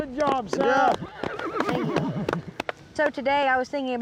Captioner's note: horse neighs